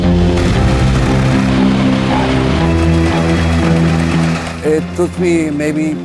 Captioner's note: intriguing orchestral music; machines whirring